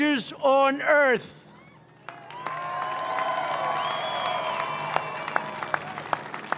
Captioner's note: applause